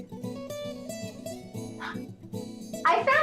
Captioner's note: gasping